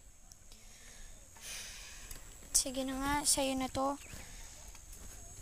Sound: sighs

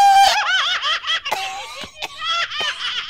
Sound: cough! Cough!

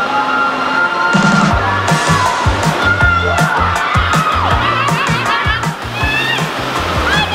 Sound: cheering; laughing; yelling

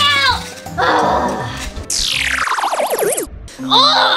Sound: space sounds

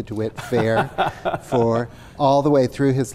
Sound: laughs

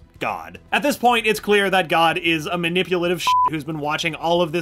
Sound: beep

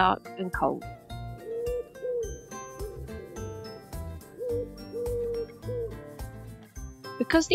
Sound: sound of bird hooting

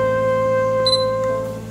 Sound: camera beeps

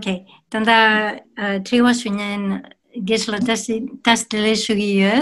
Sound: speaks in foreign language

